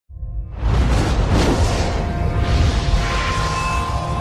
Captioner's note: air whooshing; dramatic music